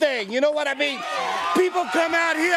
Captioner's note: crowd cheering